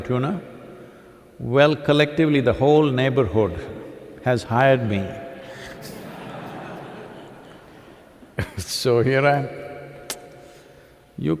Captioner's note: laughter